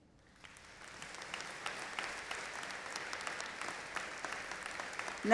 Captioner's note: audience applauding